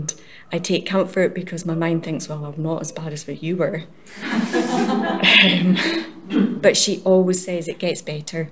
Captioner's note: laughter